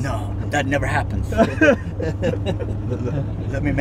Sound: men laughing

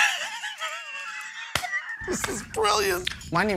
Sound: sighs; laughter

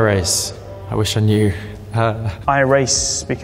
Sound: laughs

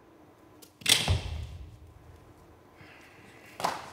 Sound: rope taps

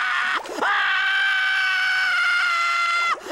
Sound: screaming

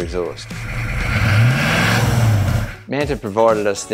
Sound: engine revs

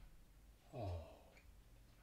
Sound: sigh

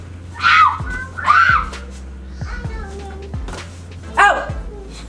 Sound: makes squawking sounds

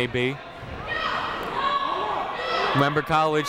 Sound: people shouting in the crowd

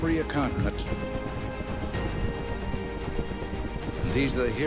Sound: helicopter sound

